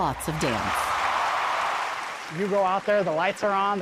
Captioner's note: audience cheering